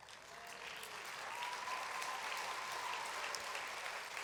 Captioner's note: applause